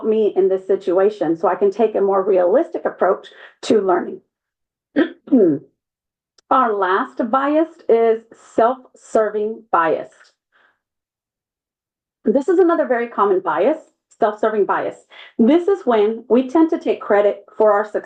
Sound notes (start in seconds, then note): 5.0 cough